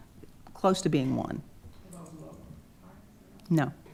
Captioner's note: quietly